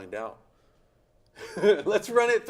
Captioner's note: chuckles